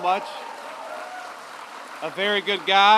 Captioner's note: applause